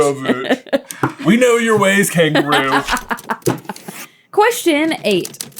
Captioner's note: laughing